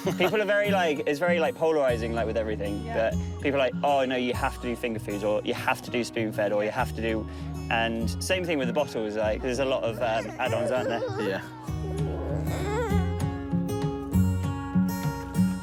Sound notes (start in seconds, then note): 10.1 baby grizzles; 13.4 peaceful guitar music